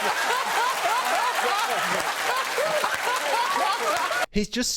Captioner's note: audience laughs and cheers; laughing and applauding